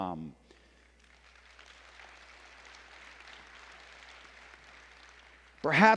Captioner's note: applause